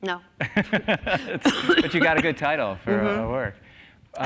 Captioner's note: laughs